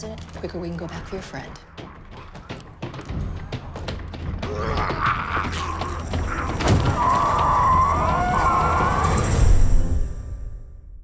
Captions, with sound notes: the quicker we can go back for your friend. [pounding continues] [zombies growling]